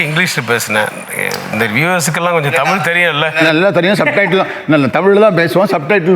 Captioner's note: laughs